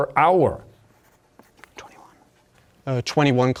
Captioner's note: whispering